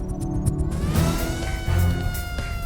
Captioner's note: siren wails